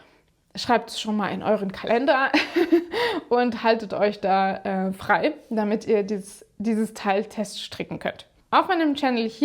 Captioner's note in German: gelächter